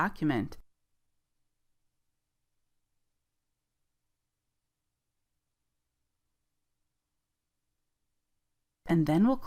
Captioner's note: silence